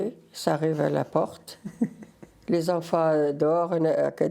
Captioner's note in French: rires